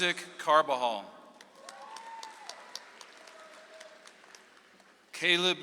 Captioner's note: audience applauds